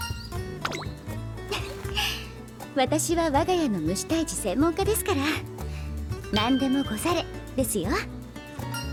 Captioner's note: laughs